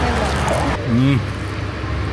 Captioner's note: sound of appreciation